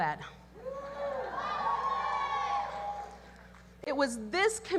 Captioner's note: audience cheers